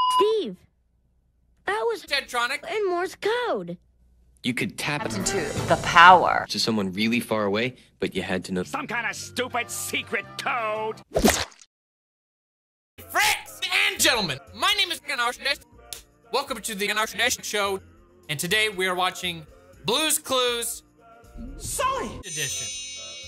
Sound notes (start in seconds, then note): 11.1 splat; 15.4 clap